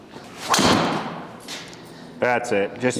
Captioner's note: golf club whacks